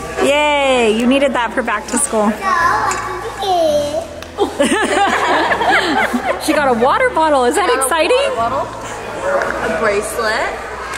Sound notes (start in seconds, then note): 4.4 everyone laughs